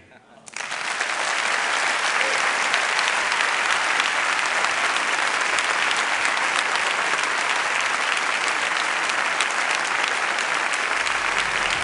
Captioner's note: applause